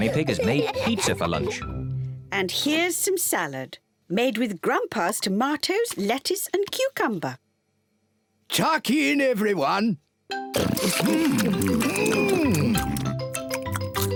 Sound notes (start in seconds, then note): 10.5 all chomping